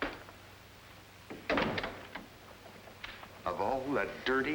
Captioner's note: door latching